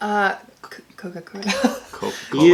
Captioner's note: laughter